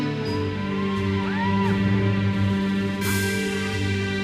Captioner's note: audience member cheers